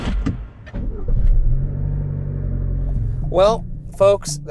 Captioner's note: car rumbling; soft, eerie music